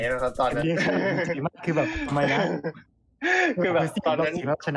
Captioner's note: laughs; laughs